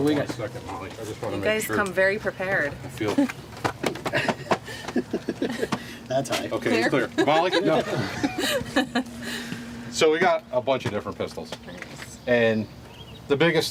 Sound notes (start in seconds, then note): 4.0 laughs; 8.5 laughing